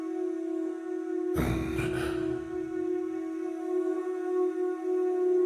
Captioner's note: grunt